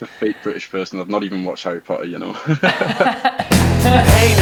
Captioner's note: both laughing